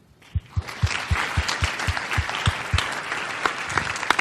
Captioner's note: audience applause